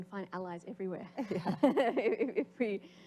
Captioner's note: laughter